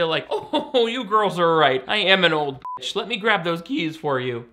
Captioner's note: beep